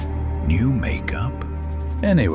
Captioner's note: whispering